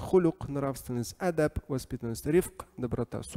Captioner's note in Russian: Говорит на арабском